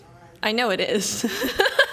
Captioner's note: laughs